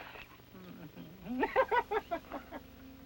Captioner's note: laughs